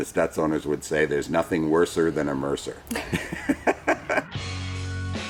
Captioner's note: laughs; upbeat rock music